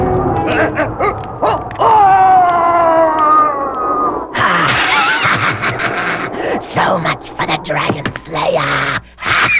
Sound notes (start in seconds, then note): 1.4 screams; 4.3 laughs